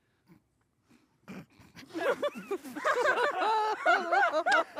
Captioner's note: laughter